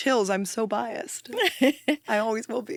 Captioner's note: laughs